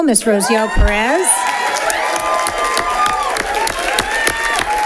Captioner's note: audience applauding